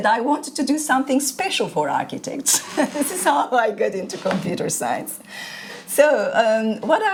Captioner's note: chuckles